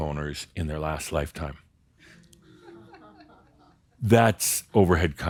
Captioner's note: a few “Hm’s” and chuckles